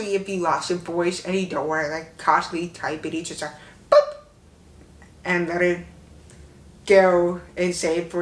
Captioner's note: boop